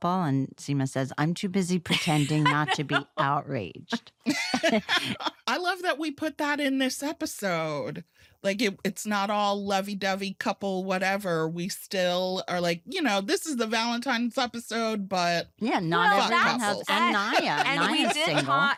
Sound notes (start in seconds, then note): 3.9 laughter